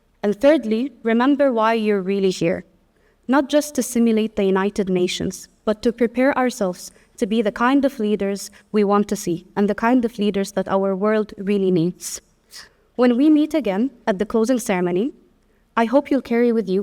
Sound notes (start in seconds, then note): none